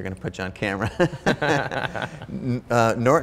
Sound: Ramit and Chase chuckling

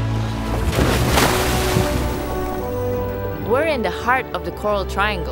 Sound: gentle music; water splashing

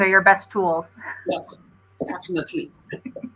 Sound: laughter

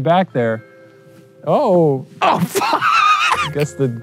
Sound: laughing

